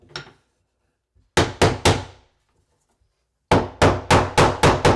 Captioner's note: hammer pounding